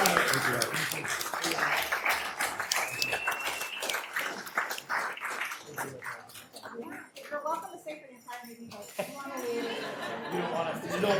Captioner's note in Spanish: Aplausos